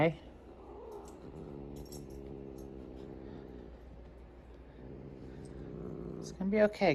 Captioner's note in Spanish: gruñe